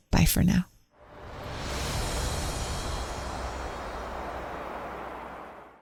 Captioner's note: soft music; wind whooshing